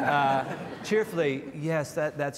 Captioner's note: panel laughs